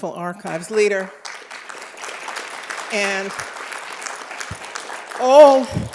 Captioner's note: applause